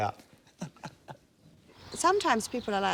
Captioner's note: they laugh